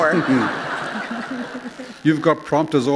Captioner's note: laughter